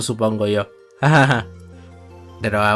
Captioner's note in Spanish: Risa nerviosa